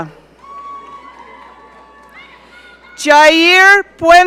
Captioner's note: audience cheering